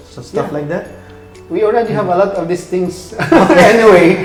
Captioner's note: laughs